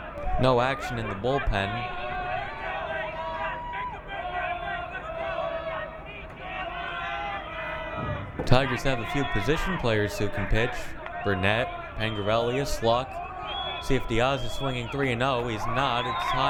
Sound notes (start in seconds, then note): 2.6 crowd cheering